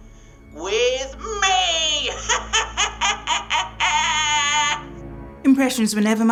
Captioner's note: cackles insanely